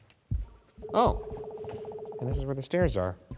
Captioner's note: device beeping